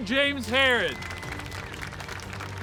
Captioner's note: clapping